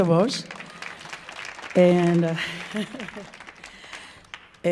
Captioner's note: audience applauding